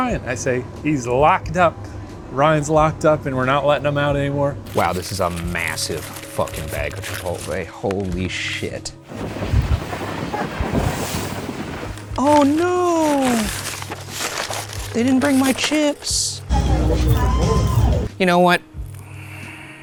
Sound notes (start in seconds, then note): 9.0 boat splashing; 15.9 upbeat music